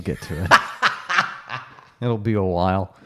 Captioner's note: laughs